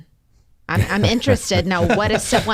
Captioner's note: panelists laughs